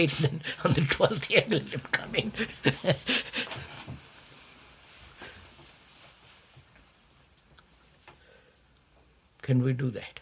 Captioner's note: laughs